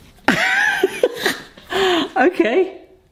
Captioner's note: laughing